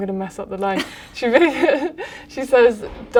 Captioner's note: laughter